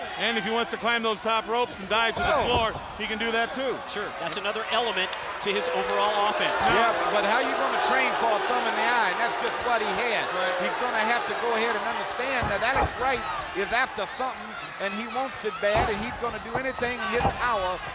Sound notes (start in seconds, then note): 4.1 hands clapping